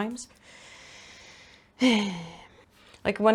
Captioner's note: deep inhale and sigh